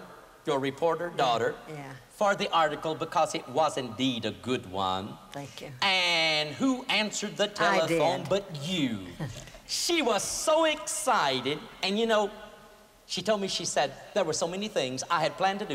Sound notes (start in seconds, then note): 9.4 laughter